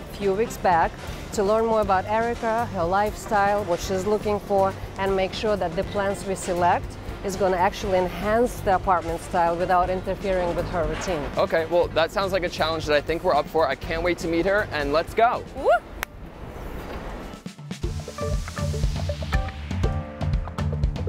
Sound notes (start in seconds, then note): 16.7 claps; 17.6 upbeat jazzy music